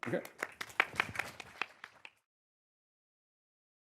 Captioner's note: audience applauds